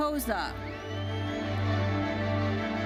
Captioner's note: audience member whistles; bright lively music continues